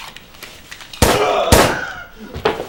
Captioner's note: gunshots